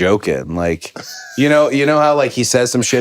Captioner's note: Finn laughs